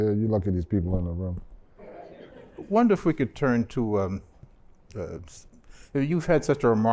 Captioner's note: laughter